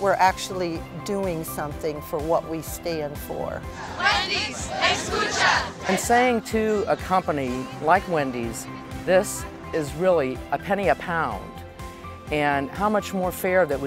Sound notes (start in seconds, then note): 3.7 crowd